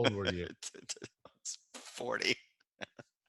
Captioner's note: laughing